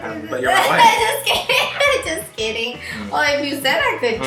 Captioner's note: laughs